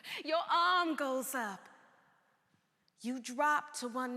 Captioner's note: none